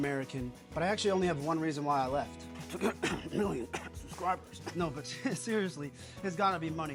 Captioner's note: coughs in American